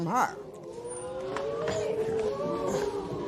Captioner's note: spectators murmur